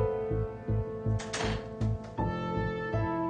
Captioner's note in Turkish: kapı kapanır